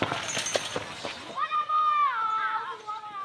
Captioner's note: children's voices